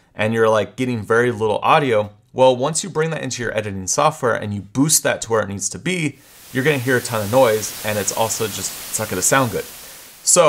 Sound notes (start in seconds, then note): 6.2 static buzzing